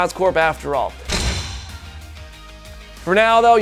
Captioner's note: slam